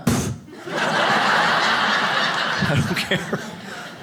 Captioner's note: audience laughs